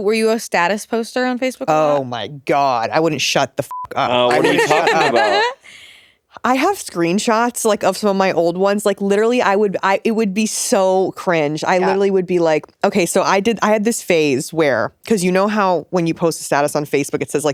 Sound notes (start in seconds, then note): 3.7 beep